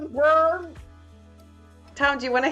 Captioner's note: wookiee roar